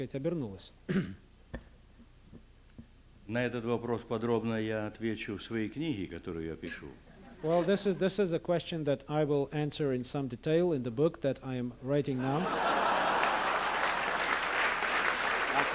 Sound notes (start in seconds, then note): 4.1 non-english speech; 7.1 laughter; 12.2 laughter; 12.6 applause